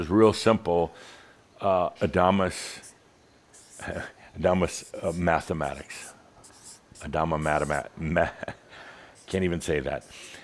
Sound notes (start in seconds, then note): 8.1 Adamus chuckles